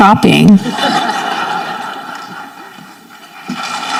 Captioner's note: audience laughing; audience clapping